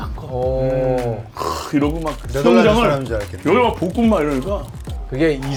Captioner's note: flashing camera lights